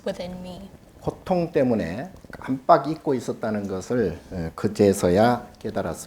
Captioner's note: speaking Korean